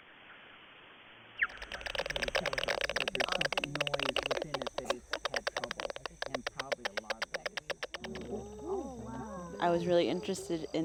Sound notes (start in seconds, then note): 1.4 crackling digital sound; 1.4 bat chirps; 6.3 group background conversations